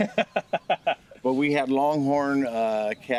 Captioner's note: chuckling